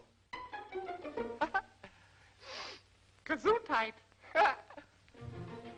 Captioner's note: breathes in